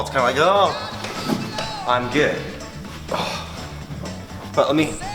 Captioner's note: grunting